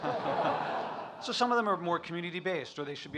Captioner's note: audience laughing